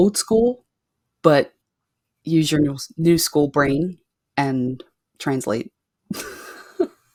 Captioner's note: chuckles